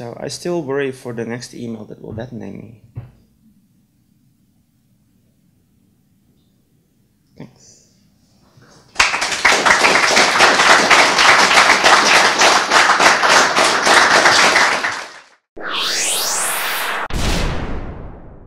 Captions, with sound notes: So I still worry for the next email that will deadname me. Thanks. (applause) (outro music)